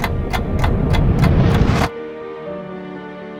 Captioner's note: memory images whooshing; somber music